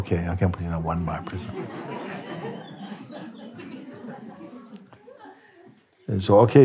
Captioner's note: lachen